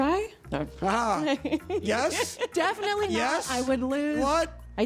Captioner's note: laughs